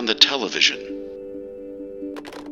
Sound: phone Hangs Up

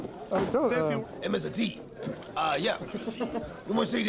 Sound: imitating Mr. T

